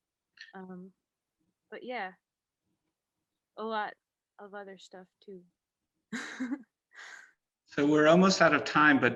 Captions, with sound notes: But yeah. A lot of other stuff too (laughs). - So we're almost out of time,